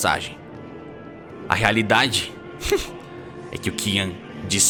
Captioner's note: laughs